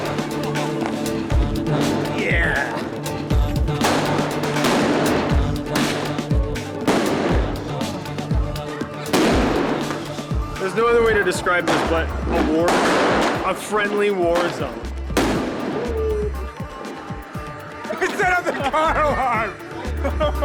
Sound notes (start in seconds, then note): 15.2 explosion; 15.3 alarm wailing